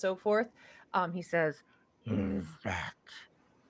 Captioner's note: heavy voice